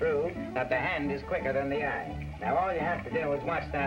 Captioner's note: none